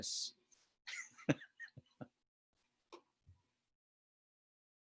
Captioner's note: chuckles